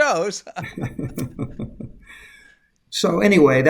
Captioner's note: laugh